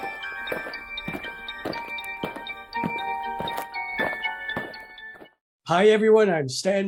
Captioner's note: eerie music; aliens marching